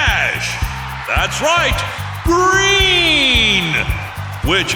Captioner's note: cheering